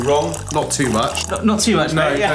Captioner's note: vinegar trickling